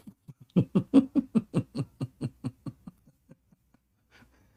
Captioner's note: Ketawa